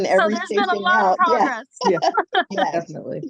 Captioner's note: laughs